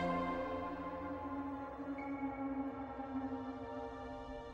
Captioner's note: none